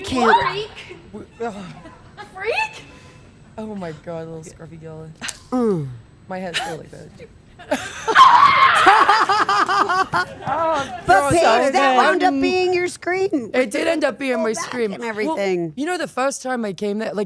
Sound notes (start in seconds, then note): 5.2 Stephanie grunting; 9.0 Stephanie laughing